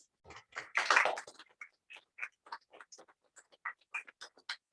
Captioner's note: applause